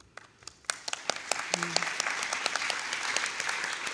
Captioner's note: audience applauds